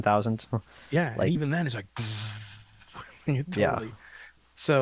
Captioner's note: imitates fan noises